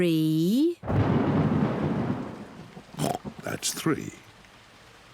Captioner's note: thunder rumbles; oinks